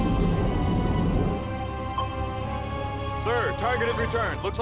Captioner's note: pinging continues